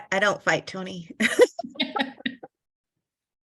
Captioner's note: laughter